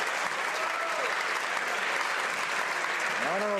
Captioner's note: some Applause